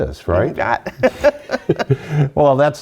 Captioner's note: laughter